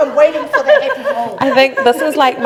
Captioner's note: group laughing